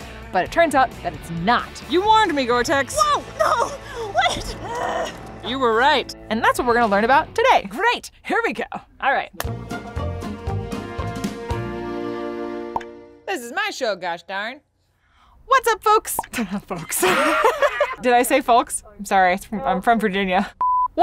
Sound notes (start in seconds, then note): 2.9 groans; 9.3 upbeat music; 16.7 laughs